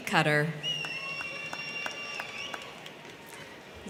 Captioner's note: crowd cheering; crowd clapping